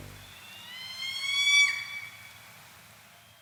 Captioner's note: some big screech???